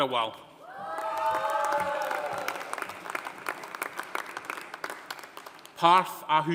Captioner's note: audience cheering; audience applauding